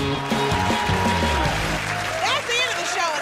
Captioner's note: cheers and applause